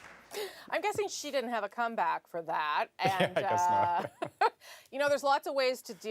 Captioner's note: laughter